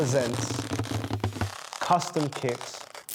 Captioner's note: balloon squeaking